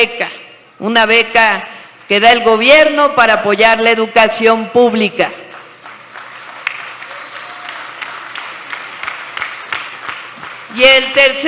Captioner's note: applause